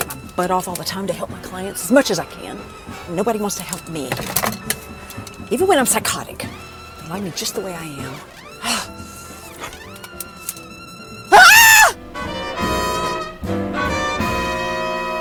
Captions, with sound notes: Work my butt off all the time to help my clients as much as I can and nobody wants to help me. Even when I'm psychotic. I like me just the way I am. (she exhales) (she screams) (jazzy music)